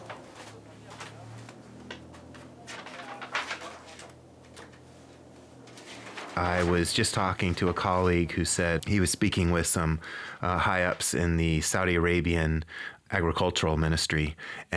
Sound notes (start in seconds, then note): 2.1 page flips